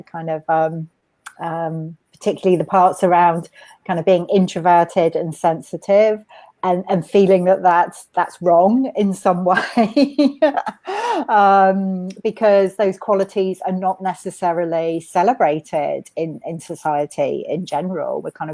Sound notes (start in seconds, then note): 10.0 laughs